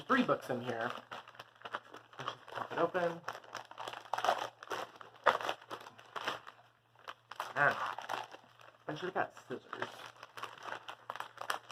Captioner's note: crumpling noises